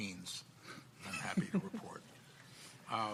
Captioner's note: panelists laughing